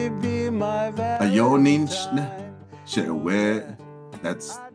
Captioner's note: member speaks in Dine